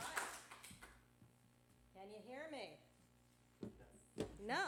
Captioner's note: applause